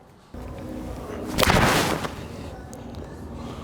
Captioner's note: thud